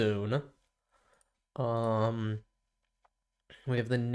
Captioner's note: silence